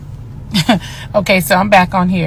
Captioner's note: chuckles